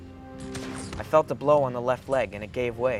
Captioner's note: voiceover